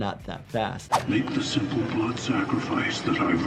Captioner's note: voiceover